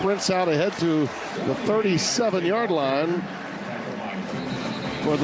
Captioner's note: whistle blowing